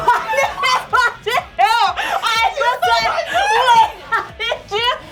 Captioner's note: hysterically laughing